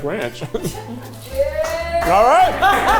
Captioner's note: cast applauding; cast cheering